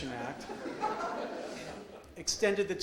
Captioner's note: audience laughs